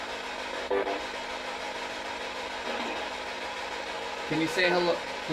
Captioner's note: white noise, static